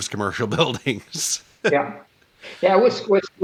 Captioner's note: laughter